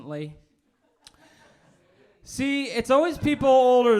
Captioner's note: old people laughing